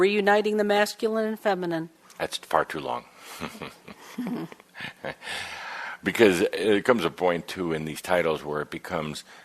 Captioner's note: chuckling